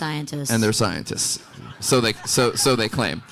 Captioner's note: audience laughing